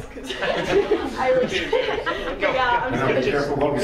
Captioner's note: laughter